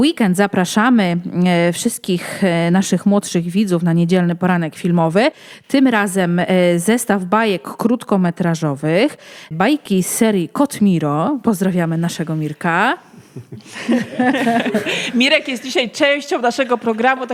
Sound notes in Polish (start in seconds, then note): 13.1 śmiech